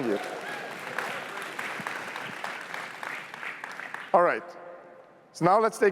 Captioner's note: applause